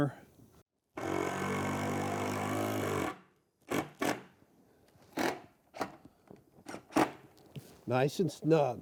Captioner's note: driver whirring